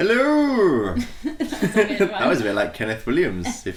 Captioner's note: giggles